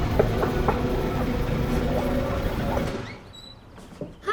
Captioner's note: hand knocks; door squeaks